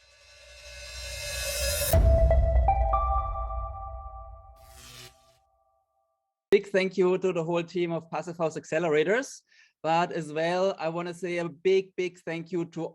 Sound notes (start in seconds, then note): 0.1 suspenseful music; 1.1 bright music; 4.4 electronic buzzing